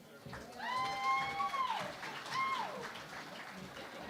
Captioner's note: cheering and Applause